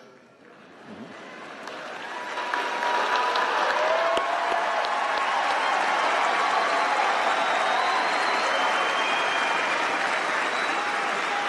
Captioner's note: applause